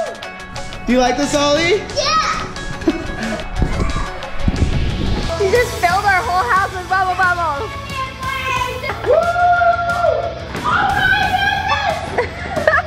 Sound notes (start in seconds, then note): 8.2 yelling